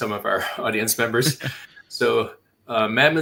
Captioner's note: laughs